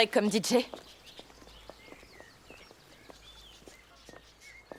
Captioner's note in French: gazouillis d'oiseaux